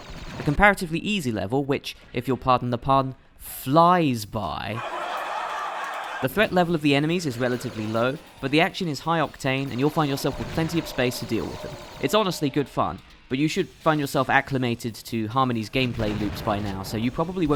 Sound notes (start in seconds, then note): 4.7 canned laughter